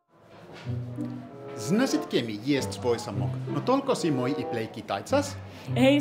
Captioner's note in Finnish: venäjäksi